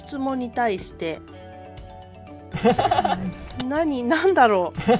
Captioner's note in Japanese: 羽生選手の笑い声